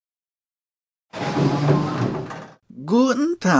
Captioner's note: door opening sound